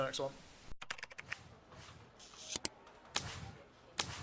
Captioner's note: keyboard clicking